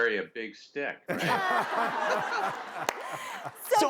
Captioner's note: audience laughs